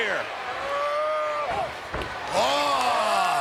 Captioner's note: Hulk grunts